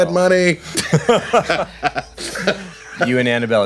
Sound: laughing

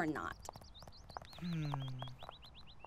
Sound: Jaune sighs in disappointment

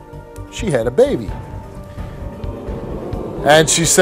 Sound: audience oohs

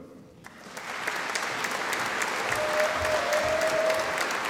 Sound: audience applauding

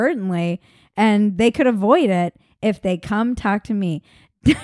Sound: laughing

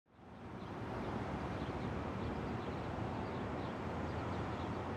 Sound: outdoor sounds

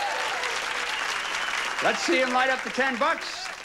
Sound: audience applauding

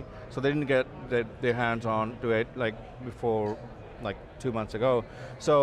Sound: none

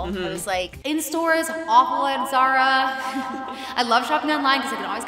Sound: laughs

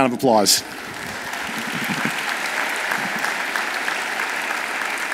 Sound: audience applauds

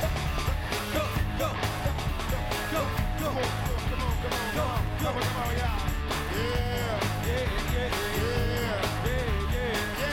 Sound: cheers and applause

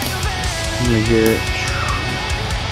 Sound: rocket noises

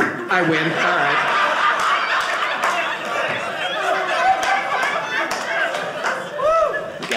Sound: audience laughing

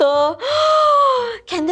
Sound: gaspppp

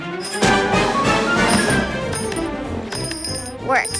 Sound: ringing

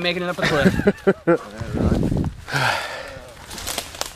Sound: laughter

